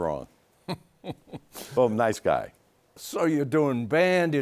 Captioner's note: laughs